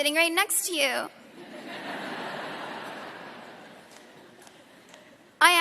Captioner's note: laughter